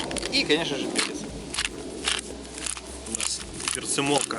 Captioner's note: salt and pepper grinder cracking